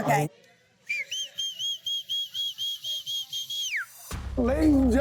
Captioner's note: whistles